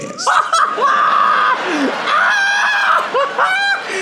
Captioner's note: laughing